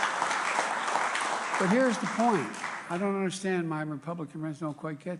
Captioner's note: applause